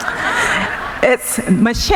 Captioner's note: laughing